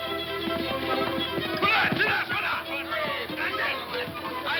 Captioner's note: tense music; men shouting